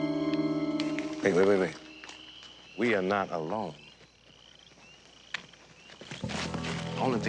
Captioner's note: footsteps running